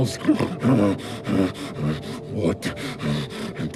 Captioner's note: panting